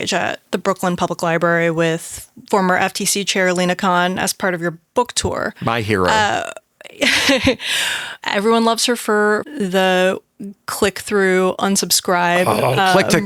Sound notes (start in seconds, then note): 5.7 chuckles